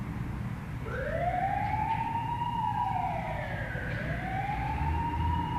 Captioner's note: sirens